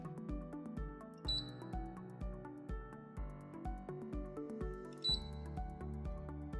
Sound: gentle music; machine beeping

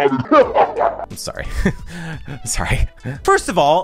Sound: laughs; chuckles

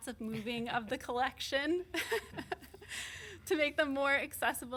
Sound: chuckles

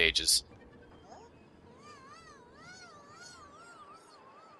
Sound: Pac-Man screams for all of time

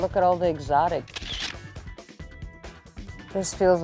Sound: camera shutter whirring

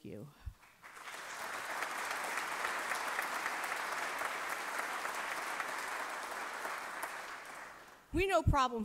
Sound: applause

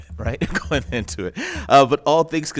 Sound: laughs

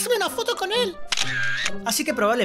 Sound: camera shutter clicking

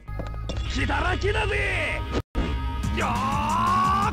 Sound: shouts angrily

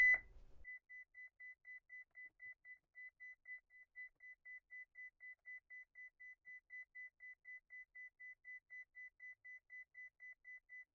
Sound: beeping

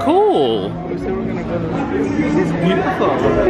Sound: speaking quietly

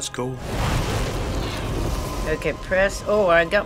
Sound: flames whoosh

